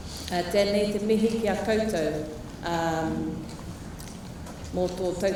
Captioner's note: speaking foreign language